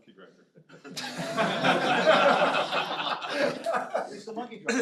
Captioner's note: laughter